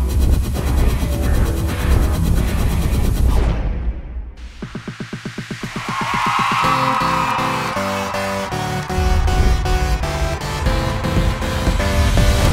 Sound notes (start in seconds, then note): 5.6 crowd cheering